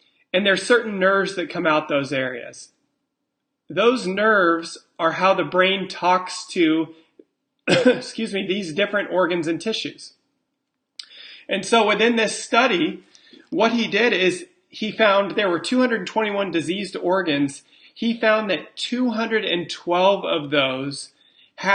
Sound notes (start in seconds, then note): 7.6 coughs